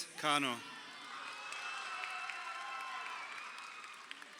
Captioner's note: crowd cheering